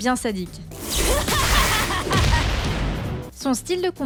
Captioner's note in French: tsundere laugh